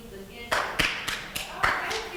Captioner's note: clapping